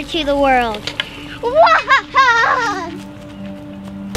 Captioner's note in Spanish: risa malvada